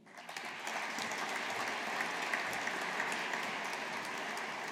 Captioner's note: audience applauding